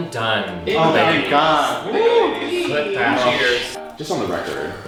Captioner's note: blue team exclaiming